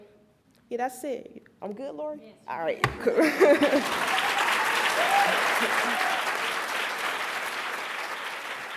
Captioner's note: applauds; cheers